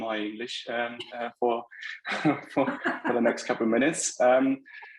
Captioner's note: laughing